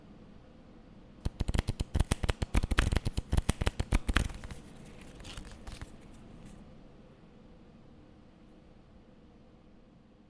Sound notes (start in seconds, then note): 1.2 cards flipping